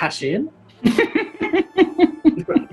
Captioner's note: giggling